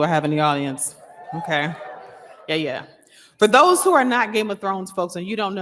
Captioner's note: applause